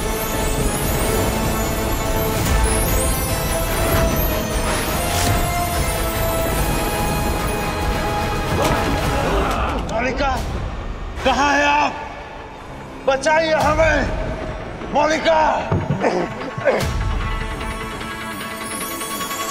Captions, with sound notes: [thieves grunting] Queen, where are you! Save us! Queen!